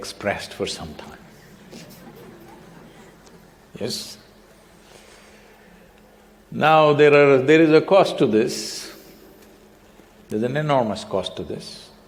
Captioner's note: laughter